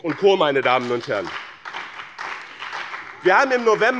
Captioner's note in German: Beifall bei dem BÜNDNIS 90/DIE GRÜNEN und der SPD